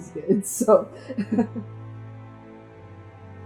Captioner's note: laughs